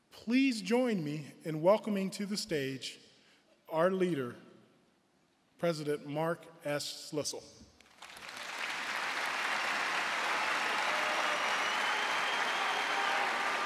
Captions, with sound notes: Please join me in welcoming to the stage, our leader, President Mark S. Schlissel. (audience cheering and applauding)